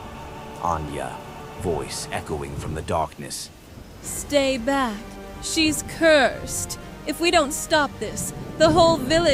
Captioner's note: voice echoing from the darkness